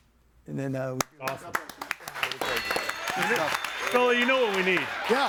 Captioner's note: audience applauds